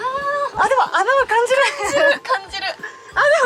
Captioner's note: laughs